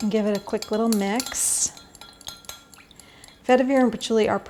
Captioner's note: glass clinking